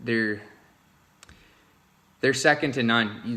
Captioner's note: pause